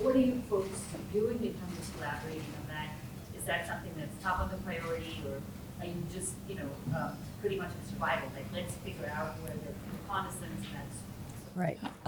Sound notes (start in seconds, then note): 0.1 woman speaking faintly; 9.9 speaking faintly